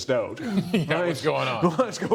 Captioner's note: laughter